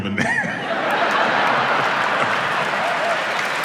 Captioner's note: audience laughs; audience applauds and cheers